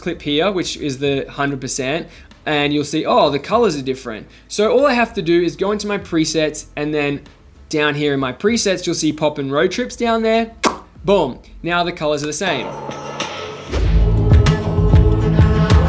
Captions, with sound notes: that I created this clip here, which is the hundred percent and you'll see, Oh, the colors are different. So all I have to do is go into my presets. And then down here in my presets, you'll see pop and road trips down there. (lips smacking) Boom! Now the colors are the same. (upbeat music)